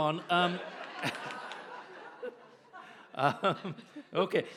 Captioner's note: audience laughs